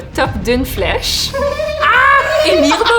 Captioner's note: laugh